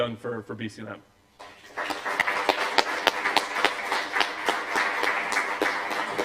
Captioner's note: applause